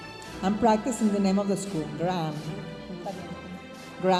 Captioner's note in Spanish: hablando en inglés